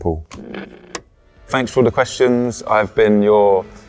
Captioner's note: button clicks